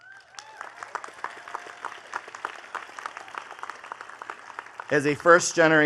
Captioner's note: attendees cheering and clapping